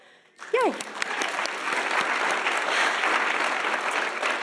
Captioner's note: audience applauding